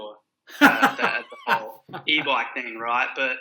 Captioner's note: laughs